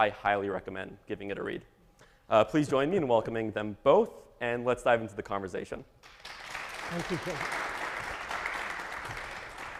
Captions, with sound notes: I highly recommend giving it a read. Please join me in welcoming them both. And let's dive into the conversation. (audience applauding) - Thank you.